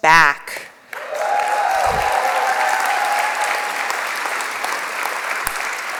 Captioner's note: applause